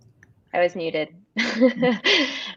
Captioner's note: laughs